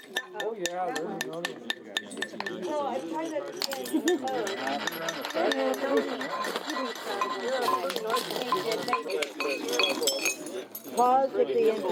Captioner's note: grinding and chipping noises